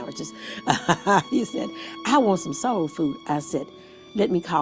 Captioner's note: chuckles